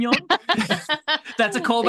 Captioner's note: laughs